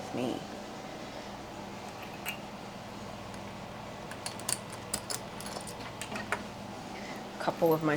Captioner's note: unlocking a small padlock sound